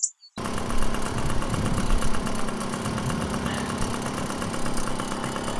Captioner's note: motorcycle engine revving